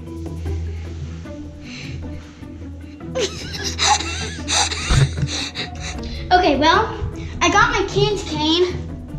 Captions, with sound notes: (cloth rustling) (chuckling) Okay. Well, I got my Candy Cane,